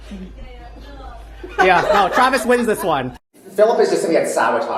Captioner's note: laughter